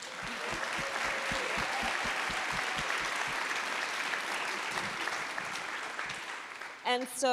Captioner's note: applause